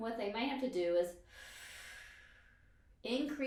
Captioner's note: exhales breath